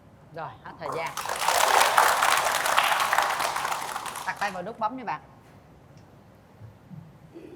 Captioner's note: applause